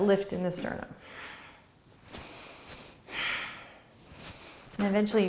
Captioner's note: breathing